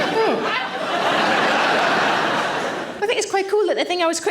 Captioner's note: audience laughing